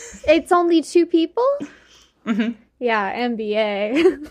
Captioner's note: sarcastic